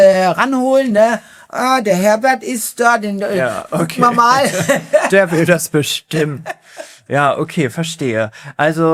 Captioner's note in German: gelächter